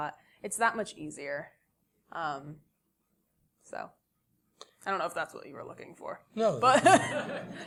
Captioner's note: laugh